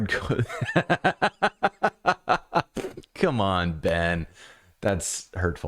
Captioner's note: laughter